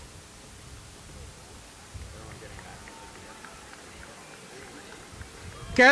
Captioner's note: applause